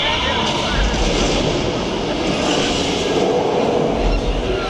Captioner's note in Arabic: صوت الترام